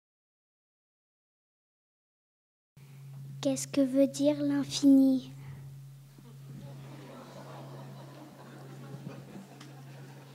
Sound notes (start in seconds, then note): 3.8 speaking in French